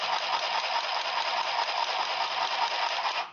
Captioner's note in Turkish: Dikiş makinası sesi